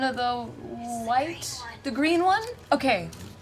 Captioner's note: whispering